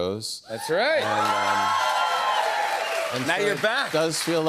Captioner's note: cheers and applause